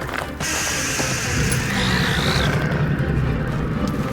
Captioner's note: creature growling